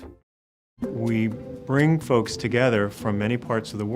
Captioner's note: voiceover